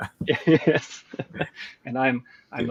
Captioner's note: laughs